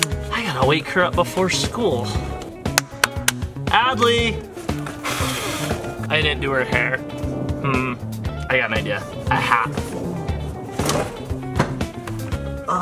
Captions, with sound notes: I gotta wake her up before school. (clapping loudly) Adley! (blowing) I didn't do her hair. Hm. I got an idea, a hat.